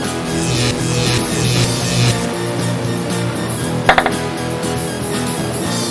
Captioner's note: electricity crackles and hums